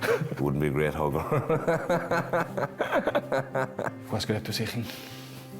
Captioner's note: laughs